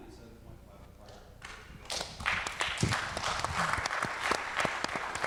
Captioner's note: audience clapping